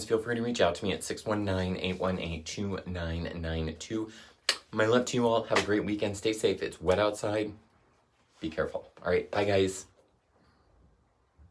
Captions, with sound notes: feel free to reach out to me at 619-818-2992. (kisses) My love to you all. (hands slap) Have a great weekend. Stay safe, it's wet outside. Be careful; all right, bye, guys.